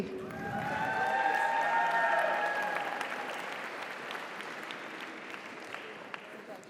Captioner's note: audience cheers; audience applauds